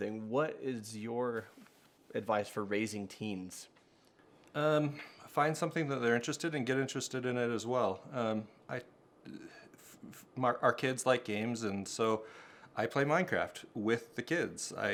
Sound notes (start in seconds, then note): 8.2 stammers